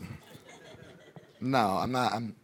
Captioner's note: audience laughing